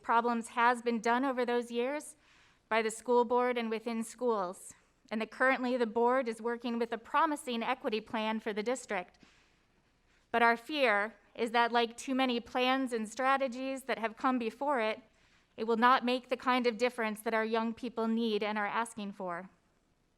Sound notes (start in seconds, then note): none